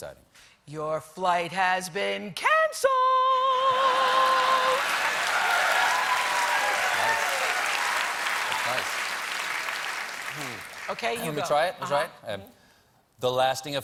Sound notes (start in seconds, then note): 7.8 applause